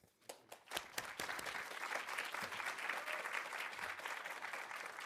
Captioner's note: audience applauding